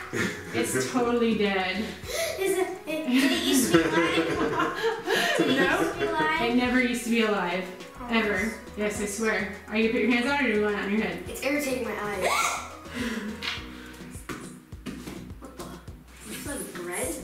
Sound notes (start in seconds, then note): 3.1 laughing